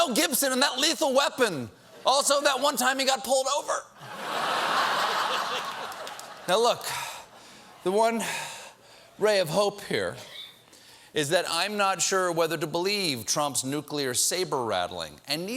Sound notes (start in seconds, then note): 4.0 laughter